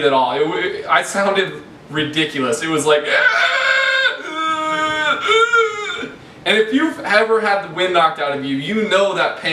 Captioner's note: gasping noises